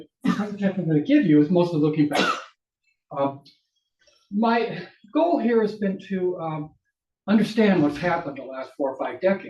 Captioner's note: audience coughs